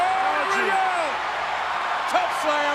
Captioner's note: audience cheers